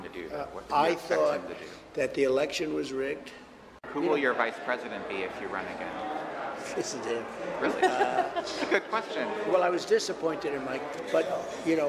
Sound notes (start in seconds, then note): 7.6 laughter